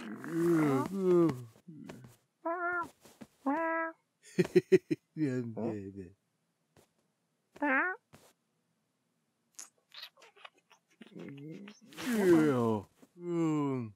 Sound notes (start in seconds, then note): 4.3 chuckles to himself; 9.5 sucking noises